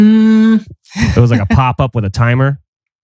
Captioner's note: laughs